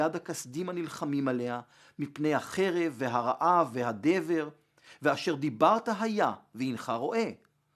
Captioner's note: Hebrew